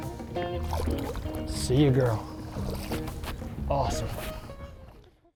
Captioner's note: water sloshing